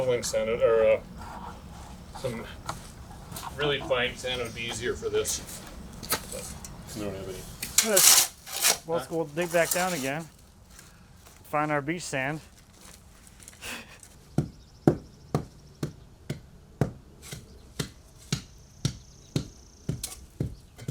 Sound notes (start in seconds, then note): 7.3 shovel scraping; 14.2 tamper pounding